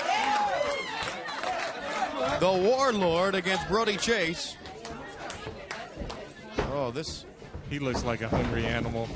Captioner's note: crowd chatter